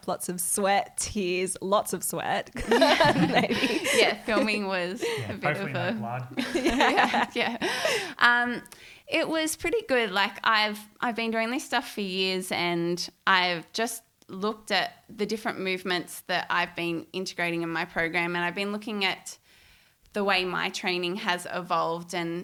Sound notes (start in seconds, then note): 2.5 all laughing; 4.9 murmurs